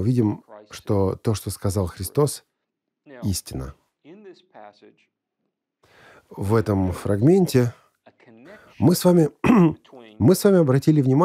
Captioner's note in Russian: откашлялся Оратор 1